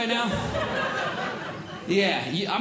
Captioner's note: audience Laughing